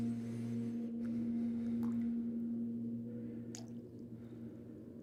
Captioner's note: faucet dripping softly